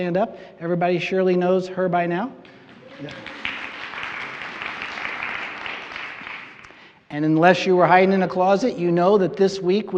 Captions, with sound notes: Everybody surely knows her by now. [applause] And unless you were hiding in a closet, you know that this week we have